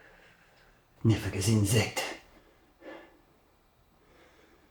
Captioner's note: Koch speaking German